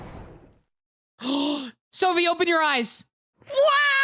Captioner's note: gunshot; explosion; gasps